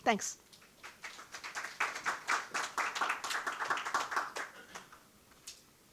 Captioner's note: audience applauding